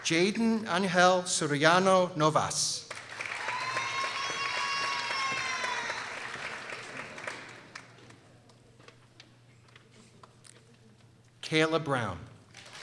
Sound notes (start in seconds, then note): 3.0 people cheering